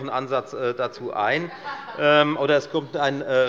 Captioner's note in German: Heiterkeit bei der LINKEN